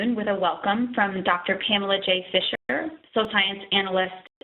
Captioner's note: audio dropping